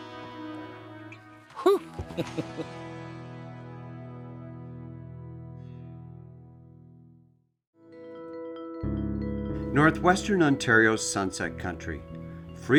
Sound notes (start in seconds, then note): 1.6 laughs; 7.8 soft music